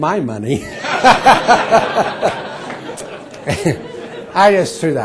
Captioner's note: laughter